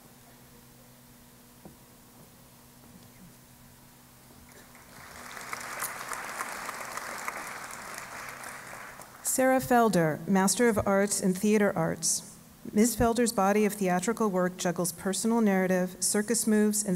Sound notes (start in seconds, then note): 4.5 applause